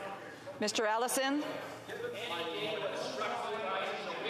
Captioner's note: speaking FRENCH